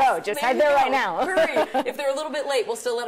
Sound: laughs

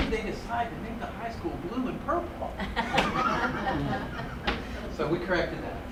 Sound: chuckles

